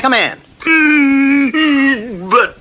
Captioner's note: King Cup stops crying